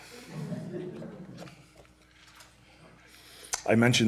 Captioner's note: laughter